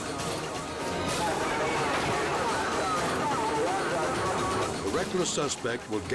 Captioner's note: police speaking over radio